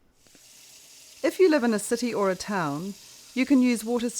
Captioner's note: sound of running water